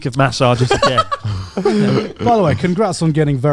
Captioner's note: laughs